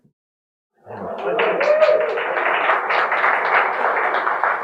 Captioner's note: audience applauding